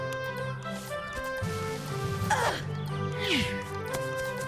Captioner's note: grunts